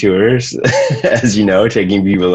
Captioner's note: laughs